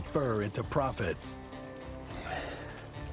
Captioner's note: sighs